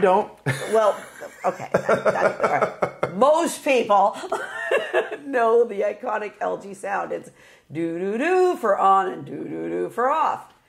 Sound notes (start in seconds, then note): 0.4 laughing